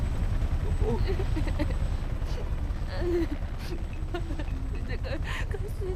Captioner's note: bursts out crying